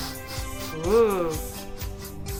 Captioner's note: dog sniffing